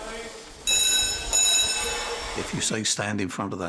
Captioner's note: bell rings